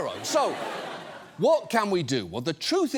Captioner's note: audience laughs